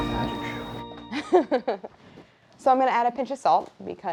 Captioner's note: laughs